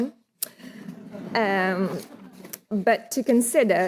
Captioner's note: audience chuckling